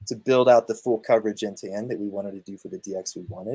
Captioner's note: none